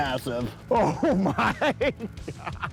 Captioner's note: laughing